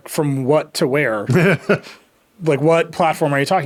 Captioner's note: laughing